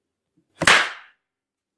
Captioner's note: extremely loud "pop"